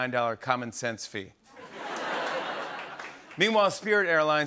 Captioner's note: laughter